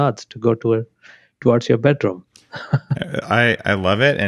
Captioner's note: laughs